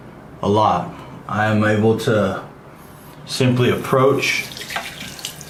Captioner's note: water splashing